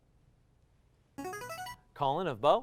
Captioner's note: ringing